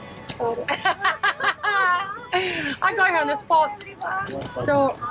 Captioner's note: laughs